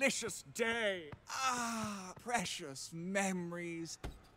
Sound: laughs; sighs

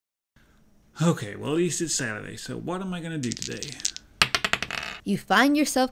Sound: sounds of dice being shaken and thrown

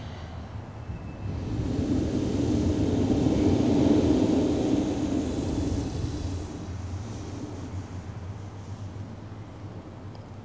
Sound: shri mataji blows into the microphone

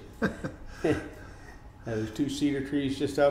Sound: laughing

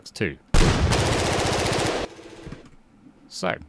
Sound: gunfire

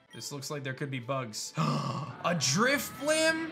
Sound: gasps

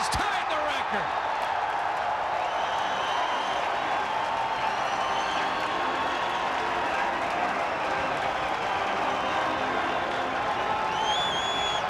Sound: crowd cheering

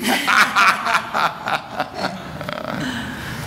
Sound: laughter

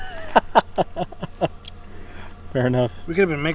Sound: laughing

